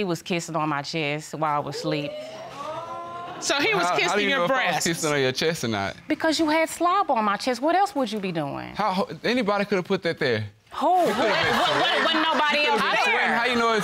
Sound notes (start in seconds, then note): 1.8 audience exclaiming; 9.3 stammers; 10.9 audience laughing